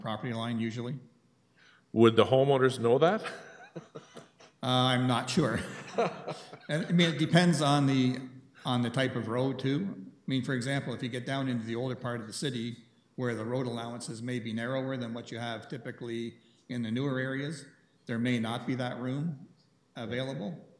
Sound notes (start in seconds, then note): 3.2 laughs; 5.4 chuckles